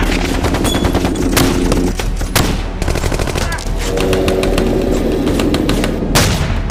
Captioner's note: guns firing; dramatic music